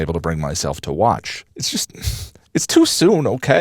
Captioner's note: sniffle